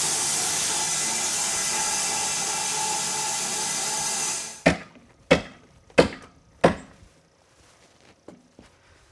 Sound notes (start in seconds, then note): 4.9 hammer thuds